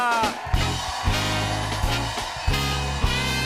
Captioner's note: cheers and applause